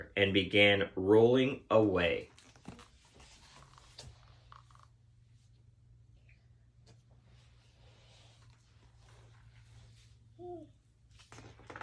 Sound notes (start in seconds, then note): 3.5 book squeaking; 10.4 child gurgling